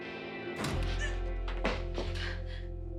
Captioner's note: gasps